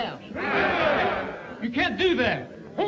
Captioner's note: all shouting